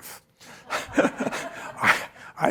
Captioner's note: chuckling